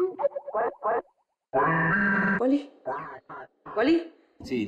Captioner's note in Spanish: voz distorsionada